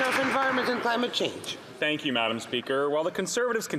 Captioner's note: some Applause